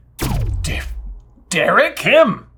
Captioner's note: power down